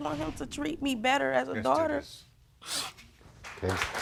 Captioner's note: sniffling